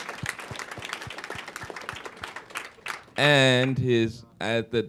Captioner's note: applause